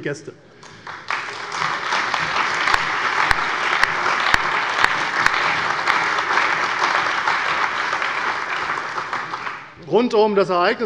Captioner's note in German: Allgemeiner Beifall